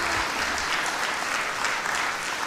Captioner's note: crowd applauding